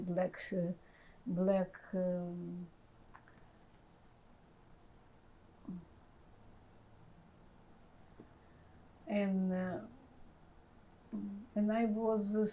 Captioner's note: pauses 10 seconds